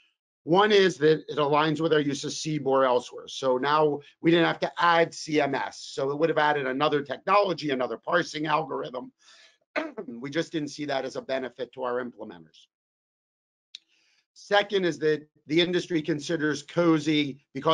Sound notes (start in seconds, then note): 9.8 coughs